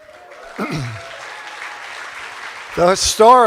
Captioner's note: cheers and applause